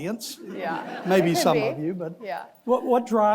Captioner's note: audience laughing